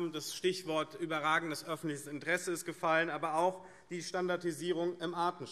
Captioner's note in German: none